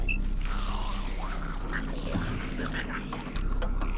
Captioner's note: grumbling